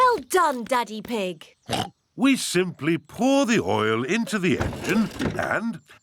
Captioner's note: oinks